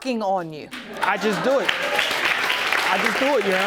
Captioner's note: audience clapping